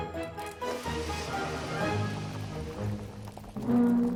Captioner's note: sounds of cooking